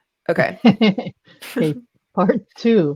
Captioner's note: laughs